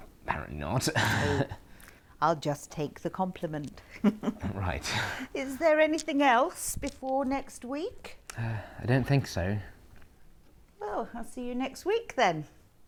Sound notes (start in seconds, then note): 0.8 Harry laughs awkwardly; 3.6 Aquila laughs